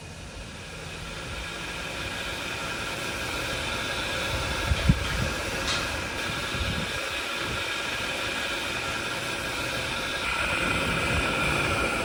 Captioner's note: steam train noises